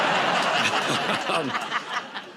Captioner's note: laughter